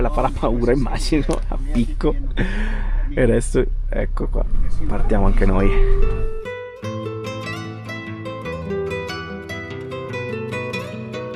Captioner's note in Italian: risate